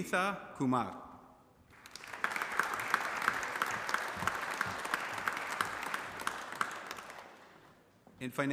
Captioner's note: applause